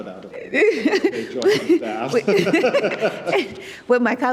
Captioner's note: participants laughing